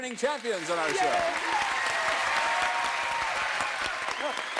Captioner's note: cheers and applause